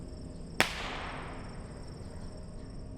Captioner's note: bottle rocket pops